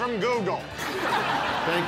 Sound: laughter

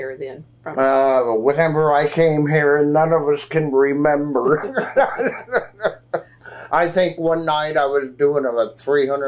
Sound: laughs

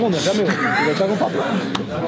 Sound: laugh

